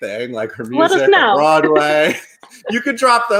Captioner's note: chuckles